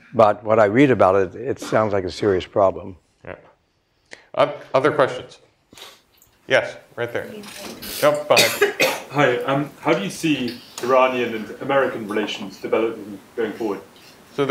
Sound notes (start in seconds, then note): 9.3 voiceover